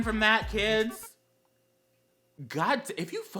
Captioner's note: temporary Gay Silence